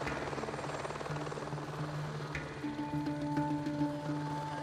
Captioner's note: sounds of helicopter and rushing stream